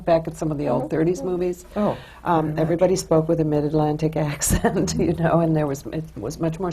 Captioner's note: laughs